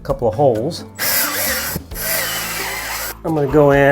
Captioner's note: drill whirs